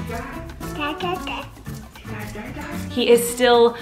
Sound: baby talk

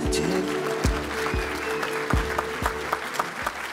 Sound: applause

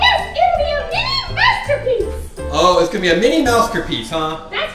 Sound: voiceover

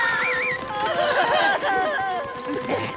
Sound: screaming; groaning

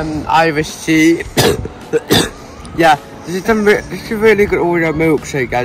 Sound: coughs

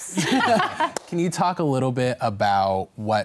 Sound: all laugh

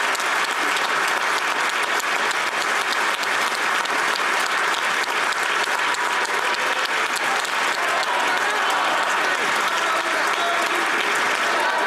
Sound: applause

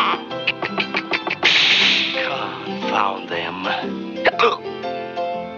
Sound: hiccups

